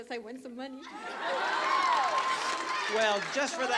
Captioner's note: cheering